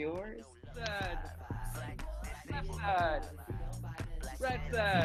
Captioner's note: participants celebrating